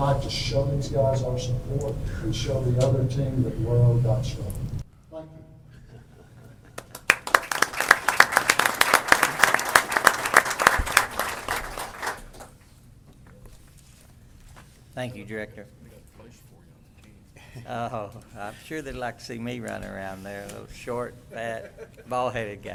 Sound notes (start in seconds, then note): 6.7 applause